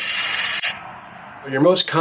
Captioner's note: extinguisher hissing